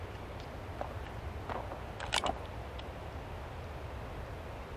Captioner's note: gravel crunching